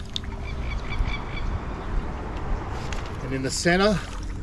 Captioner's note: birds chirping